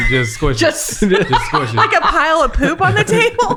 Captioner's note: laughing